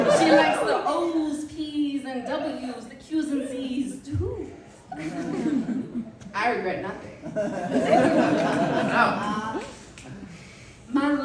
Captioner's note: audience laughter and snapping